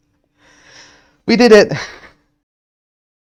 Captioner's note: laughs